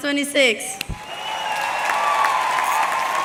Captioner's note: audience cheering; audience clapping